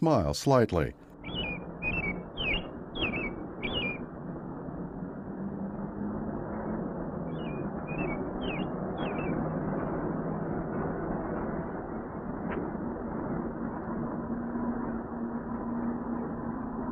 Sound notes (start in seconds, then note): 0.2 vehicles passing; 7.3 chirping continues